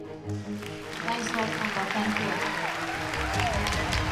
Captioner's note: applause